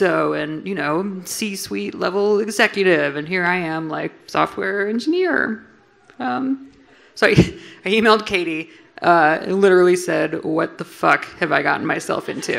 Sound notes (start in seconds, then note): 7.0 laughs